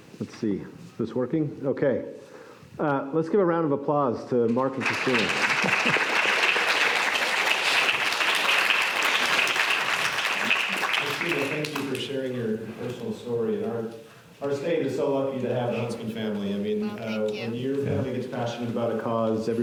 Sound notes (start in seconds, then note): 4.8 applause